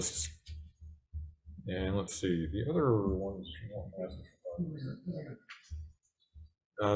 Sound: speaks faintly

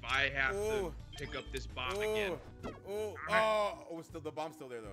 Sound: none

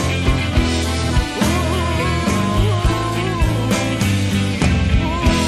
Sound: whining

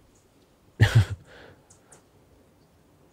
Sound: laughs

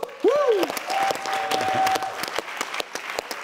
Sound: applause

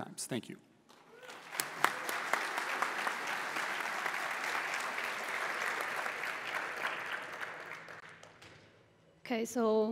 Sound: applause

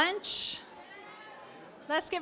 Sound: audience chattering

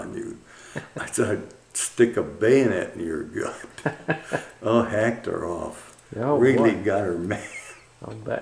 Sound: laughter

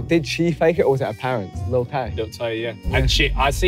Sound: none

